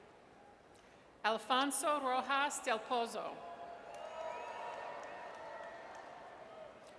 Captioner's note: audience cheers